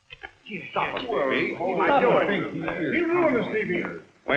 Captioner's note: angry chattering